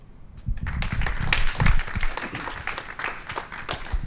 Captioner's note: applause